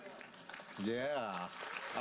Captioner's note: audience applauds